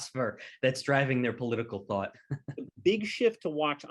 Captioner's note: chuckles